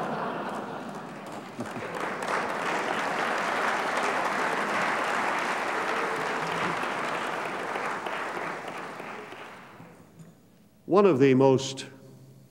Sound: applause

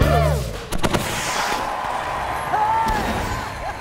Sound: music stops, cheering

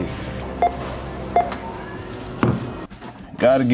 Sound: beeping

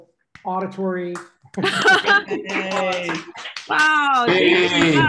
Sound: laughter

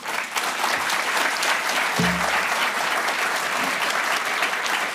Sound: applause

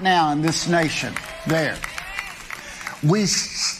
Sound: audience clapping

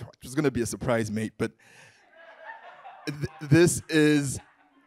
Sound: audience laughing

